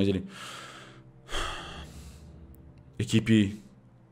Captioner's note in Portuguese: suspiro